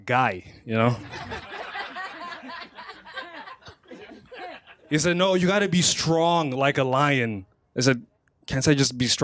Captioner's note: laughter